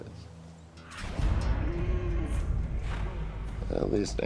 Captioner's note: Bull grunts